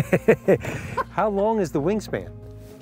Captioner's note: laughter